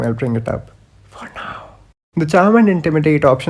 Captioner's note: whispers: for now